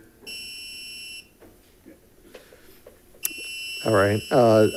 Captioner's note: alarm ringing